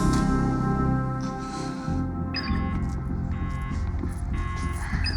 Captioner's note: locator beeps